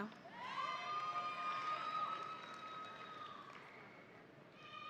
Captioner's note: audience cheering